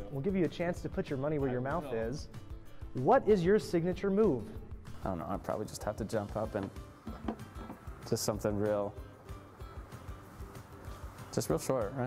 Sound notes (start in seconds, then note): none